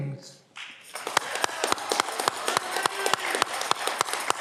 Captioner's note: audience clapping